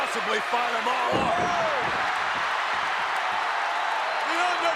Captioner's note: audience cheers